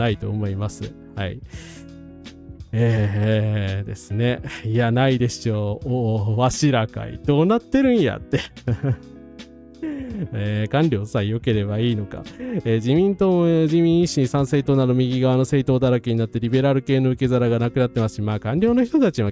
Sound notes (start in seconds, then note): 0.0 laughs; 8.3 laughs